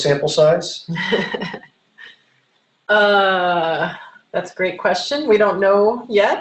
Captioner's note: laughs